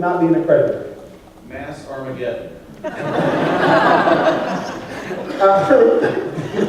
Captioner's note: laughter